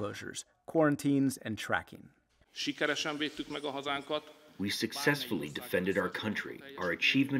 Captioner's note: through translator